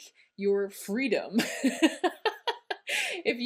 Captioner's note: sarcastic laughter